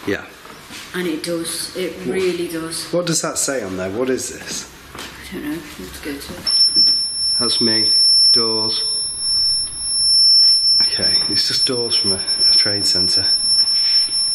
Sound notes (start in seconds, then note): 6.8 loud beeping